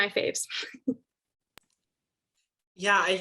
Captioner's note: laughs